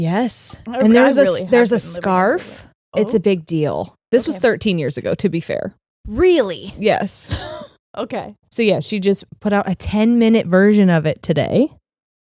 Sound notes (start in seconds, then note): 7.2 chuckling